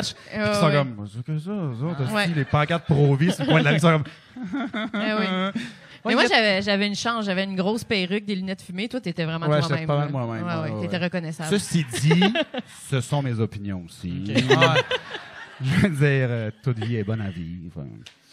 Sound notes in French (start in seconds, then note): 4.3 rire jaune; 14.3 Rires